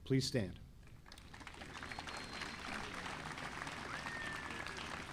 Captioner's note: audience applauding